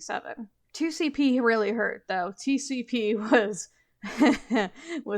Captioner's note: mischievous chuckle